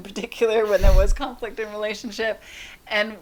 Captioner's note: laughs